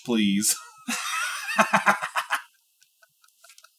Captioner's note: laughing